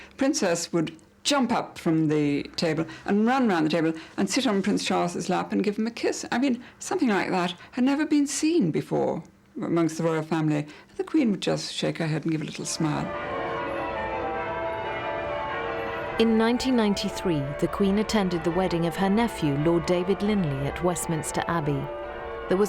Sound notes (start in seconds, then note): 13.8 church bells ringing